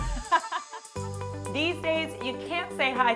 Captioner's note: laughter